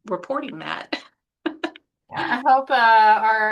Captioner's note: chuckles